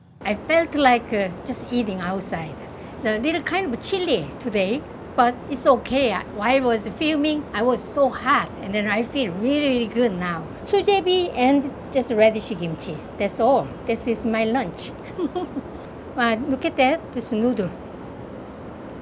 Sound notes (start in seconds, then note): 15.0 chuckling